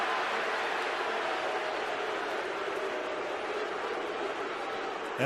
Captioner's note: booing